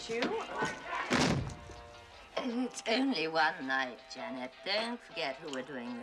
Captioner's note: Дверь закрывается